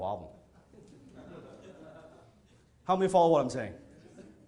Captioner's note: audience chuckling